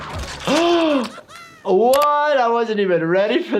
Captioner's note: gasps